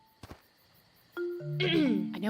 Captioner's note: mic clears her throat